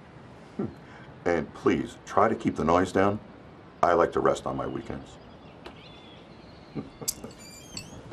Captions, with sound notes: HMM. AND PLEASE, TRY TO KEEP THE NOISE DOWN. I LIKE TO REST ON MY WEEKENDS. [ Chuckling ]